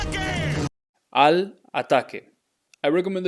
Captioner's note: speaking in Spanish